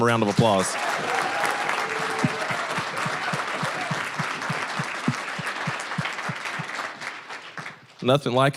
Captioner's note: applause, cheering